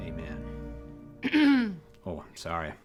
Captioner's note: clearing throat